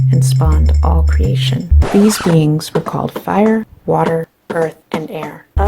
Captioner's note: scratch